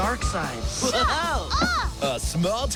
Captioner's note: chuckling